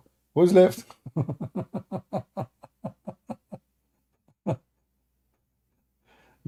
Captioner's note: Ketawa